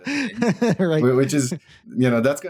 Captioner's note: laughs